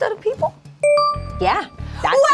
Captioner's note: bell chimes